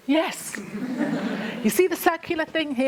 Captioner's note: laughter